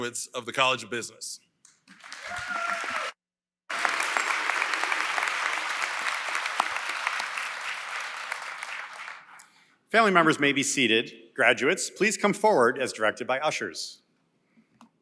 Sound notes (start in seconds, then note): 1.4 applause & Cheering